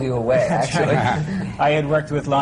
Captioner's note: laughter